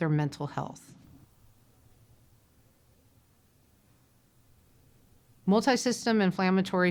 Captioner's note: silence